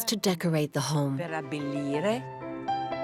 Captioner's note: Italian spoken audio